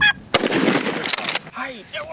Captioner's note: gun shot